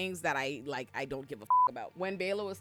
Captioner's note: beep